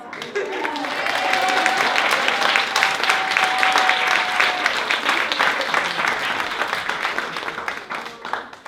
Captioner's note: applause